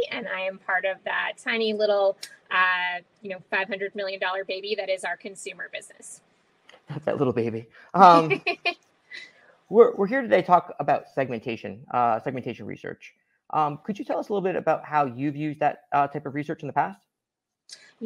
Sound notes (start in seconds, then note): 8.0 laughing